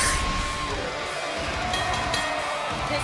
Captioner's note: bell ringing